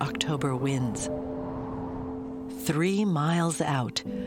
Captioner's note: wind whistling